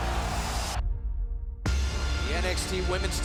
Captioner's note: crowd cheering